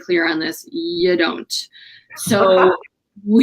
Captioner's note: laughter